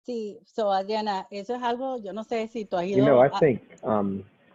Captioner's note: speaking in foreign language